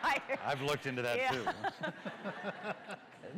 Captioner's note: laughter